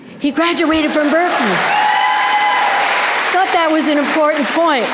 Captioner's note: audience applause